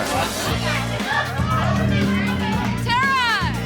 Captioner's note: chatter